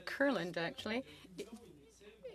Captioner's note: speaking French